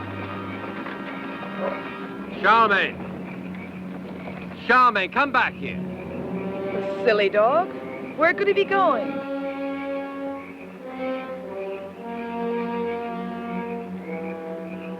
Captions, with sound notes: (Charlamagne barks) - Charlamagne! Charlamagne, come back here! - The silly dog. Where could he be going? (suspenseful music)